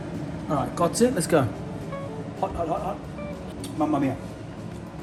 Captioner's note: speaking in a foreign language